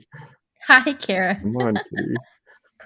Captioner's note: laughs